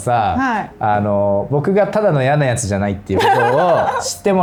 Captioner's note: laughs